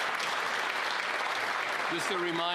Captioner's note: applause